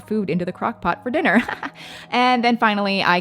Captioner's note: chuckles